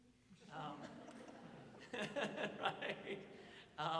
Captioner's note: audience chuckles